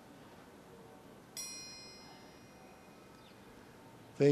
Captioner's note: ding